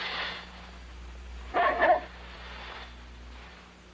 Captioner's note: dog barks